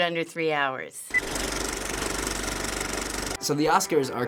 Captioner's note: movie reel clicks